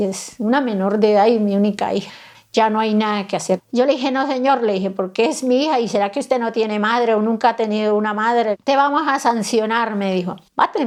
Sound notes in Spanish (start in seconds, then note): 2.5 En tono de respuesta